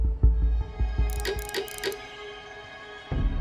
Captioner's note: rattling; gloomy music playing